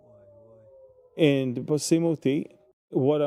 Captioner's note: speaking in Hebrew